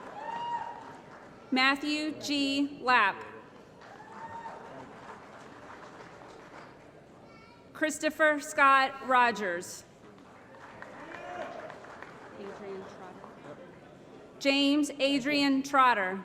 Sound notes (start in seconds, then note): 3.6 applause; 10.1 applause